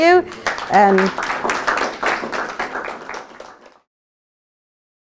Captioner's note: applause